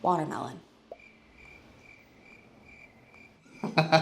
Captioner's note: crickets chirping; laughing